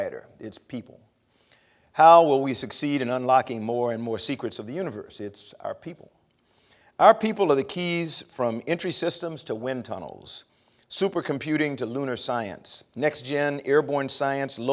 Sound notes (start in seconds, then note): none